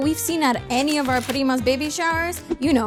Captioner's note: speaks foreign language